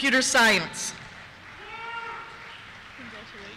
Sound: cheers

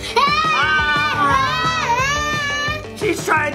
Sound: screams

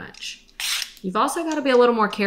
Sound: scraping

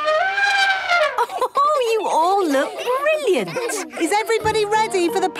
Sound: trumpeting; Mummy Pig laughing

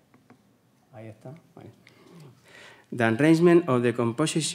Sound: speaks faintly

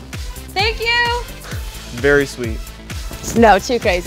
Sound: laugh

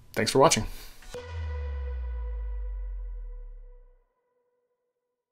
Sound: bright tone plays

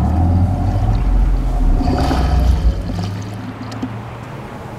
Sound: boat motor rumbling

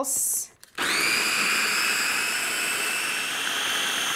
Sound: blender whirring

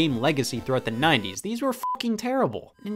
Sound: beep

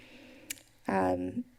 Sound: tongue clicking

